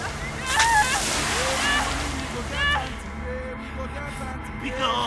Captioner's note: water spraying; wailing; ominous music; speaking in foreign language